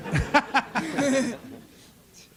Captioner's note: laughter